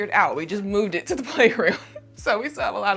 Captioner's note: laughs